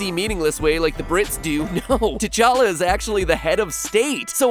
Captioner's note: laughs